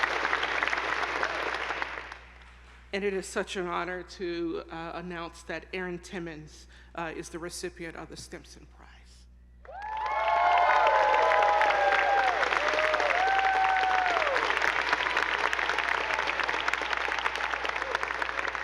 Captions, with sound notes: And it is such an honor to announce that Erin Timmins is the recipient of the Stimson Prize. (attendees applauding) (audience whooping)